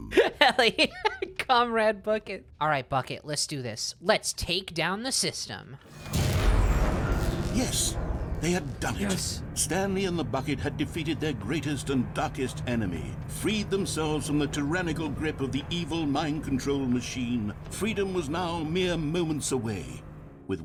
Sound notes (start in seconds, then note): 0.4 laughing; 5.9 powering down, dramatic music